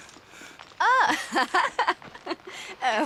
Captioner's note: laughing